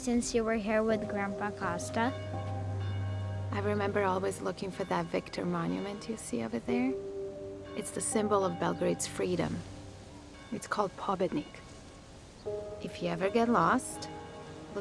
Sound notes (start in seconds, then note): 2.4 church bells tolling